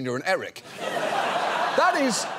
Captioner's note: audience laughs